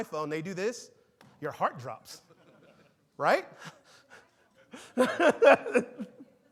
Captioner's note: laughs